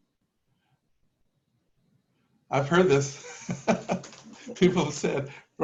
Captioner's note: laughter